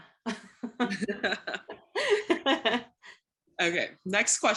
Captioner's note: both laugh